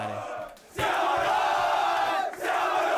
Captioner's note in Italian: Applauso